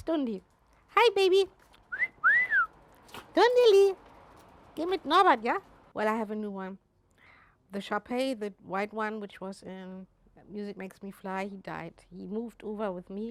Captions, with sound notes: That's Dundi. Hi, baby. (whistles) Dundilee! Well, I have a new one. The Shar Pei, the white one, which was in "Music Makes Me Fly," he died.